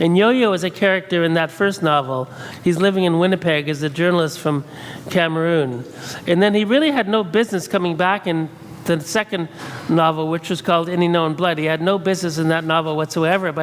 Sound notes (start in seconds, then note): none